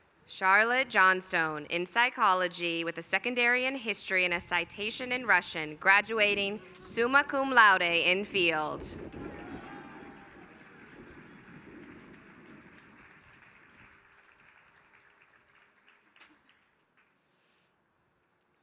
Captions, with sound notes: Charlotte Johnstone in psychology with a secondary in history and a citation in Russian graduating summa cum laude in field. [APPLAUSE]